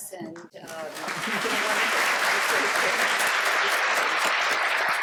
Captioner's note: applause